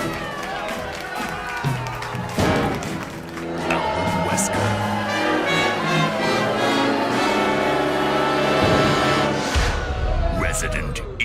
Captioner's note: crowd begins to boo